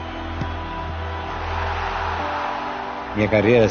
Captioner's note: crowd roaring